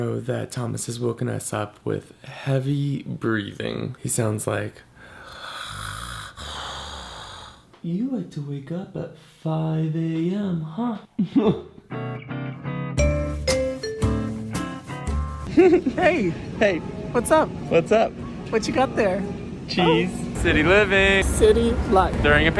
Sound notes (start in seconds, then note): 4.9 heavy breathing noises; 12.1 inspiring music; 15.5 giggles